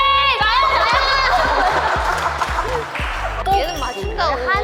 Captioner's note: tee-hee